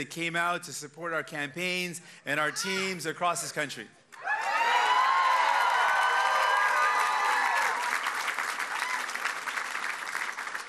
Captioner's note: cheers and applause